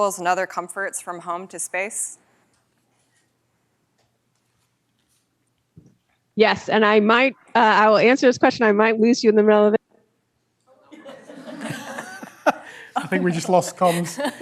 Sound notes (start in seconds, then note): 10.8 laughter